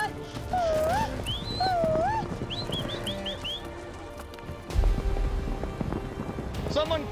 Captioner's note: yelling, herding